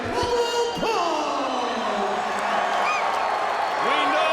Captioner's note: audience cheering